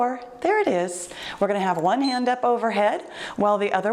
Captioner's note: timer beeps